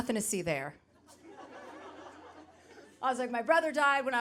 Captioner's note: audience laughing